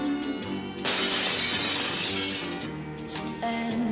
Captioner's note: glass smashing